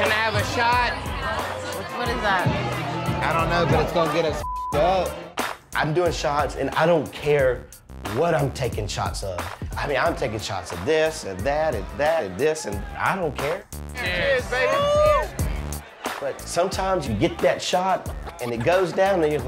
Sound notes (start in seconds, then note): 4.4 beep